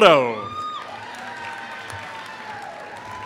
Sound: applause

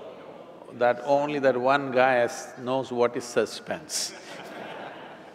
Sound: laughter

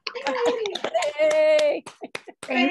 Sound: clapping

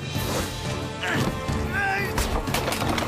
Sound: Owen Grunting

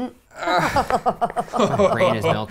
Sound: stilted laughing

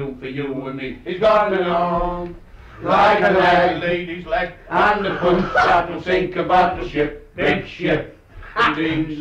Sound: laughter

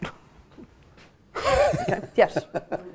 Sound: laughter

